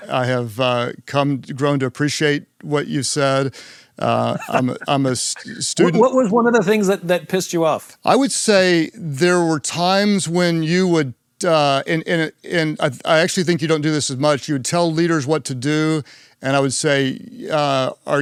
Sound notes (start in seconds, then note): 4.1 Simon laughs